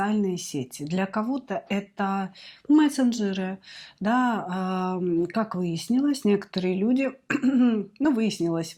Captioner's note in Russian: откашливается